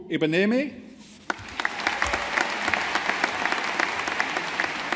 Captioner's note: audience applauding